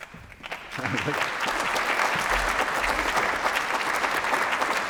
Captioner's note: applause